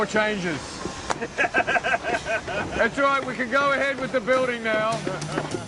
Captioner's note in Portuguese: Risadas; risadas